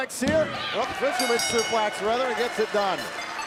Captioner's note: bell ringing